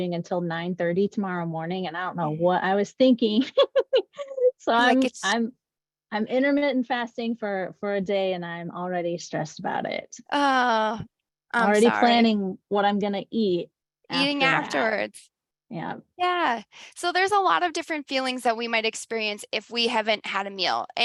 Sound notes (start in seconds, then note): 3.3 laughs